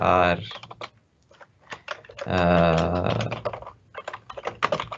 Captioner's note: keyboard clicking